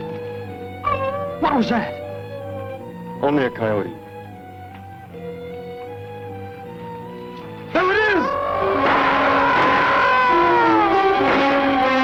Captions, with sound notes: [ HOWL ] What was that? Only a coyote. [ DISQUIETING MUSIC ] There it is! [ FIRING ] [ GARGON WAILS ]